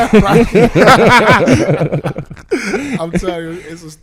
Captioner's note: laughing